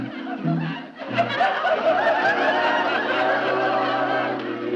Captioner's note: audience laughing